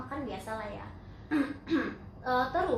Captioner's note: cough